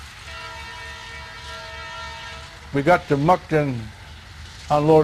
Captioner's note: train whistle blows